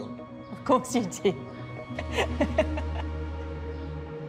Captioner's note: laughs